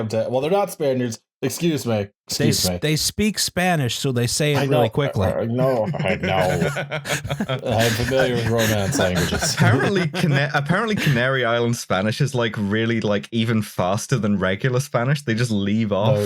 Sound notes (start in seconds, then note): 5.6 laughs; 6.3 growling; 9.2 laughter